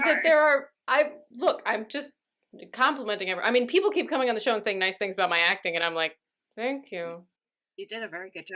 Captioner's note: through gritted teeth